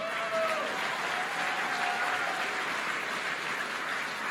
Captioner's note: applause